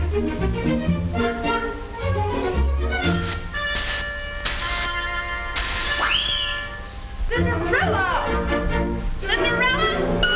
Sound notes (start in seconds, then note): 0.0 gentle classical music; 3.0 perfume spritzing